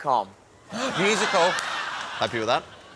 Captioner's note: gasps